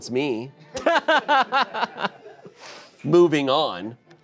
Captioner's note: laughs